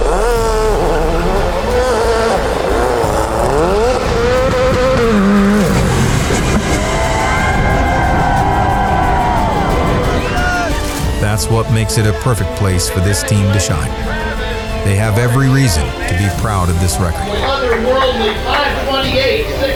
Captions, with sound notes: (tires screeching) (car engine revving) (crowd cheering) That's what makes it a perfect place for this team to shine. They have every reason to be proud of this record.